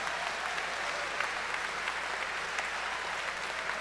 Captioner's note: cheers and applause